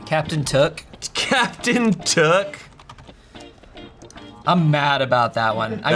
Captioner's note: laughs